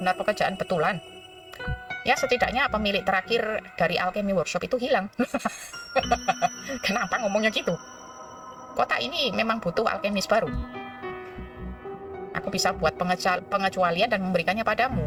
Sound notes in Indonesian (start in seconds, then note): 5.2 tertawa